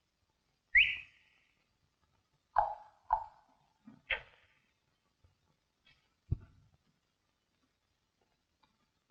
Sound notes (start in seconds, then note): 2.5 tongue clicking